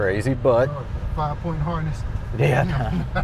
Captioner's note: laughing; laughs